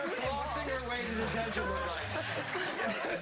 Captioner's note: cheers and applause